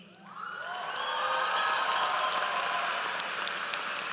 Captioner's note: audience cheers